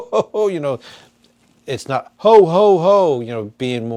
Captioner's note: flatly